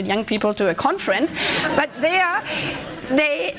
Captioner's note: laughter